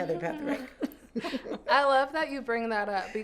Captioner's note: laughter